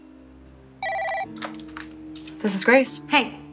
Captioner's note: phone ringing